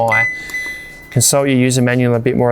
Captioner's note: fridge beeps